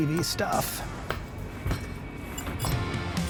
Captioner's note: foot stomping; upbeat music